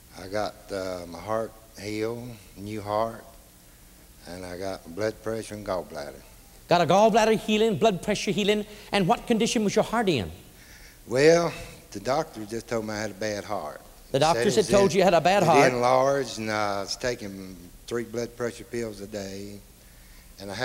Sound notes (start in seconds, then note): none